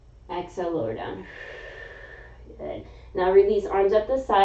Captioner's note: inhaling; exhaling